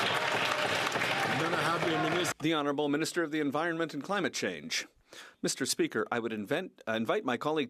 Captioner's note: some Applause